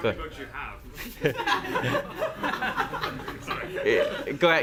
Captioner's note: laughter